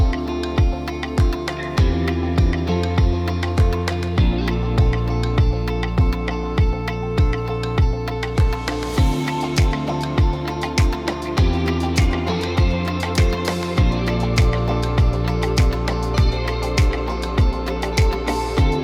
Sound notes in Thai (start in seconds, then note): 1.0 ปรบมือ